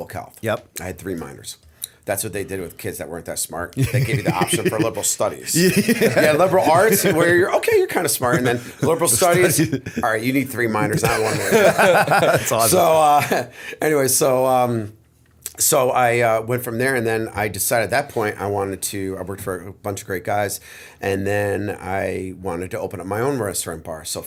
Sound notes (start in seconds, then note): 3.8 laughter; 12.4 laughter